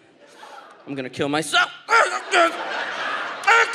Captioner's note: audience laughs; groans